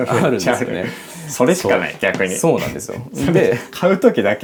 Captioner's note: laughs